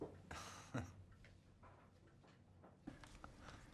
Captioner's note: Rob chuckles